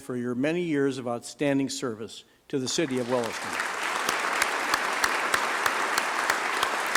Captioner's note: applause